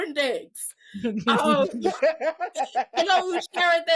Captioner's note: laughing